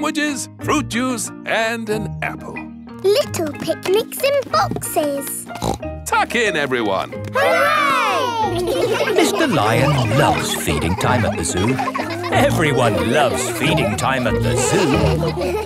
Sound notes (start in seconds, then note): 5.5 snorts